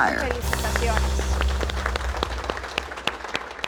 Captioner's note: applause